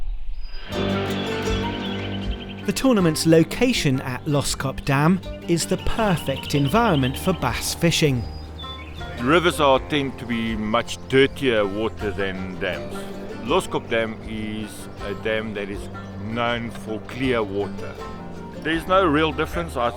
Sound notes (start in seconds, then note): 0.7 birds chirping; 0.7 upbeat music